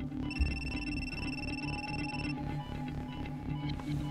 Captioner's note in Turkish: Telefon zili sesi